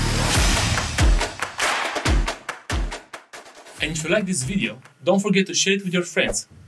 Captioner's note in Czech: Potlesk